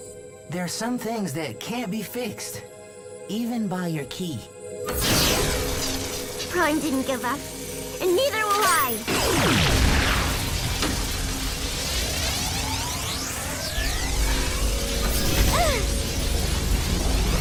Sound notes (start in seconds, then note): 15.4 exclaims